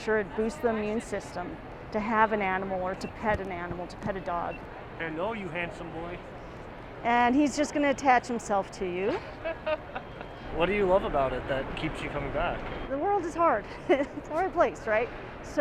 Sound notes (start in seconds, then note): 9.1 laughs; 14.0 laughs